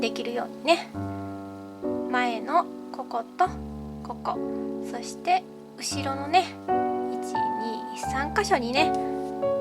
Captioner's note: insects